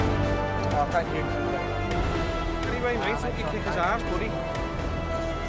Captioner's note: chattering